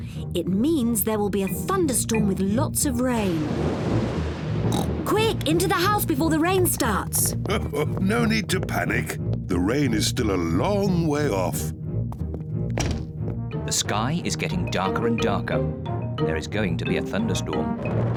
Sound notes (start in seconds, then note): 3.2 thunder rumbles; 4.7 oinks; 7.5 chuckles